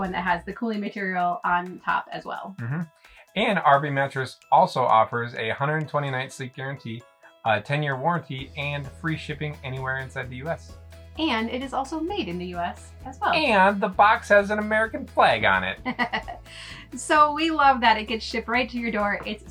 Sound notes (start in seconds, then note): 15.8 laughs